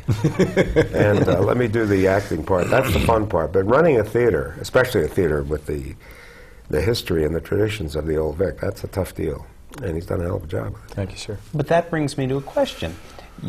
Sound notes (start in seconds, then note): 0.0 laughter; 2.6 clears throat